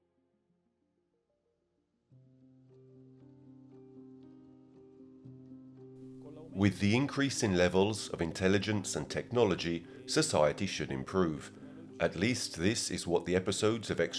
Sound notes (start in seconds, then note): 2.9 pensive music; 5.3 speaking in foreign language